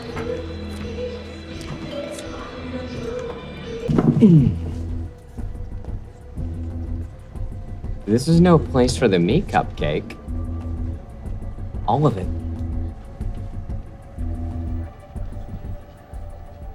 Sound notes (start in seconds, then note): 0.3 upbeat music continues; 3.8 suspenseful music; 3.9 chair thuds; 12.6 suspenseful music continues